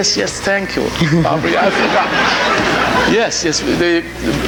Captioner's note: audience laughing